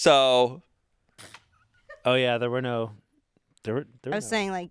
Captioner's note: crew blows raspberry